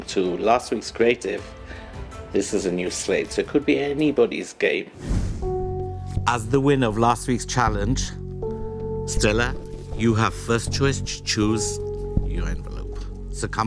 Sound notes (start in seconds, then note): none